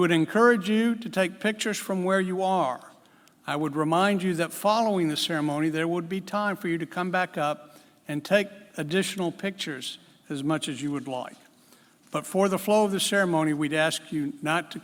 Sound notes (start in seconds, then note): none